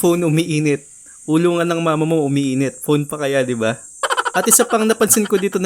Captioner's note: laugh